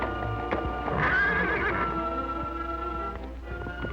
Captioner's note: whinnying